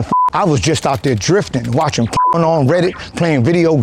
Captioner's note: beep; beep